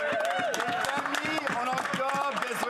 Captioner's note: speaking French